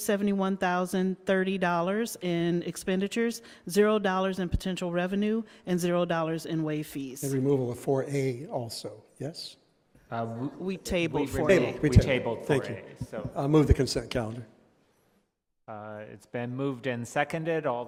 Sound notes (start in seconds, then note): none